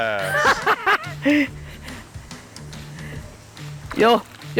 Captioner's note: laughs